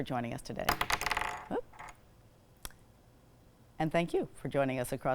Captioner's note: pen falling